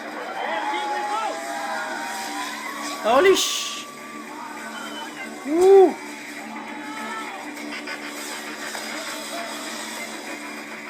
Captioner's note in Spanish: Aplausos